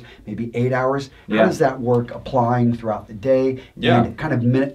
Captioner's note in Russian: Смеется